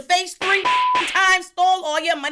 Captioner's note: beep